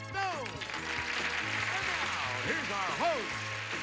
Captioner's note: audience applauding